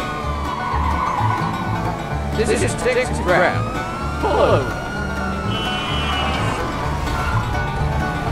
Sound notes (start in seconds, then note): 2.8 on megaphone